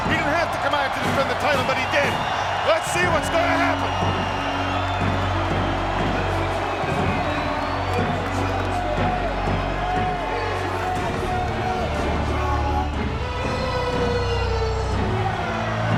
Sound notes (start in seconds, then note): 4.6 crowd cheers; 4.6 intense theme music